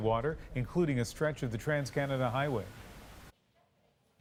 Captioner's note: none